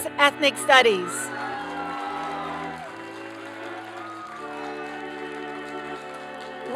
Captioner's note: applause